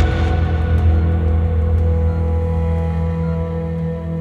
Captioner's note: Ventilator beeping